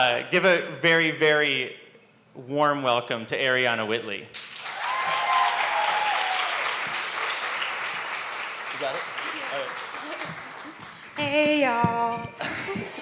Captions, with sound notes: Give a very, very warm welcome to Arianna Whitley. (applause) You got it? - Yeah. - Alright. - Hey ya'll.